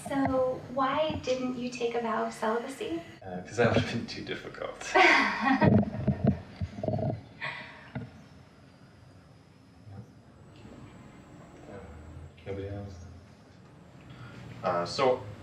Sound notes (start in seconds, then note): 4.8 laughter